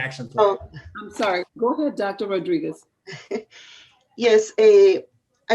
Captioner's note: laughter